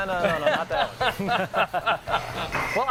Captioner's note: laughter